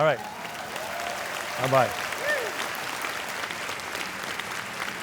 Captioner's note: audience applauding